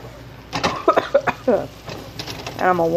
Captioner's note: coughs in pain